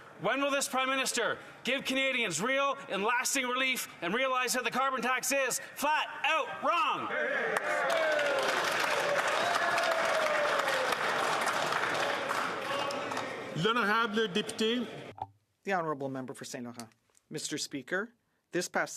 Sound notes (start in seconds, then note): 10.8 some Applause